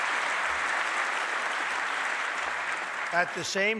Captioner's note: applause